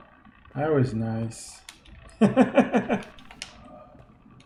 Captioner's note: chuckles